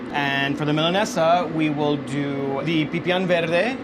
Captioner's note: speaking in foreign language